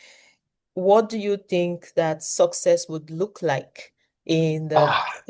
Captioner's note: sighs